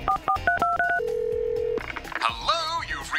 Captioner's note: line rings